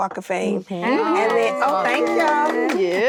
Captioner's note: actresses reacting